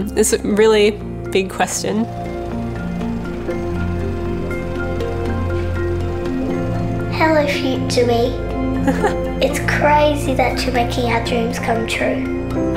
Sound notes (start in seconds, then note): 2.5 gentle music continues; 8.7 chuckles